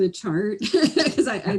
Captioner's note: laughs